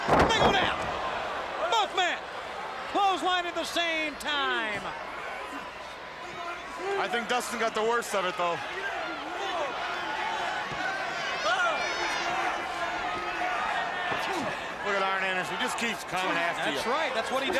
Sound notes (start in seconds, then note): 4.9 crowd chatter; 8.7 crowd chatter